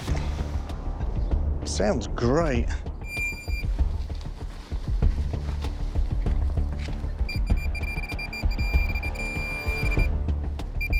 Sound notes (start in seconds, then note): 3.0 pinpointer beeping; 7.3 beeping rapidly